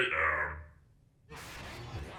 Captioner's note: none